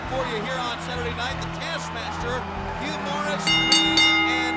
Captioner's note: bell ringing